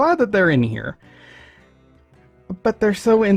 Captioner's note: breaths in